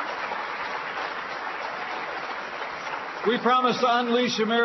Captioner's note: applause